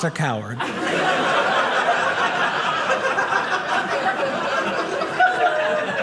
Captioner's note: audience laughing